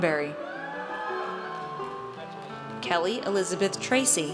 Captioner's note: audience cheers